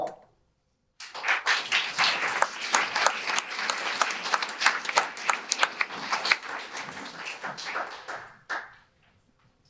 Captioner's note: audience applause